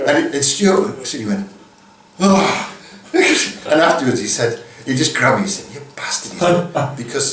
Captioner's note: sigh